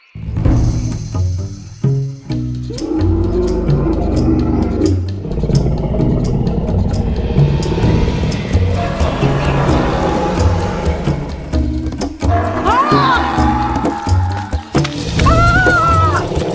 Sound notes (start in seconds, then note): 0.3 dramatic music; 3.0 dinosaur roaring; 12.5 Luna yelling